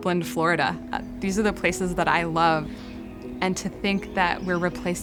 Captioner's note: birds chirping